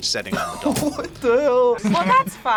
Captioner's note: laughs